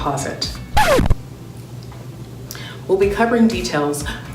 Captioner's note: record scratching